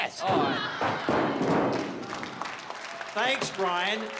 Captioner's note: metal crashing